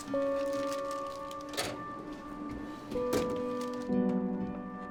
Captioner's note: drawer rattling; expressive piano over uneasy electronic music